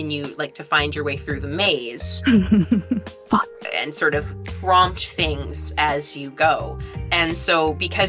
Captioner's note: chuckles